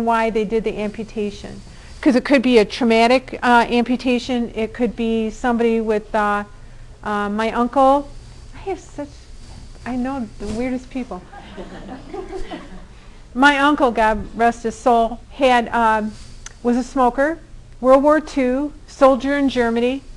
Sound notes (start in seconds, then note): 11.2 all laughing